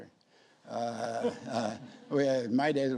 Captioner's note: audience laughs